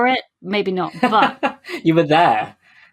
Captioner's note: laughs